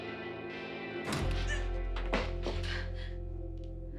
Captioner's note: gasps